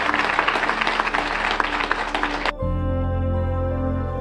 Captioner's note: applause